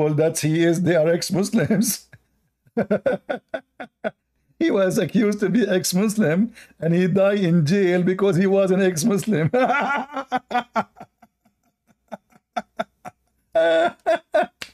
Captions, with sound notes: bahawa dia adalah bekas Islam dia dituduh sebagai bekas muslim dan dia di penjara kerana dia adalah seorang [Ketawa]